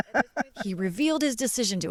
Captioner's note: laughter